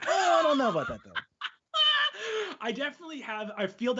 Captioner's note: laughing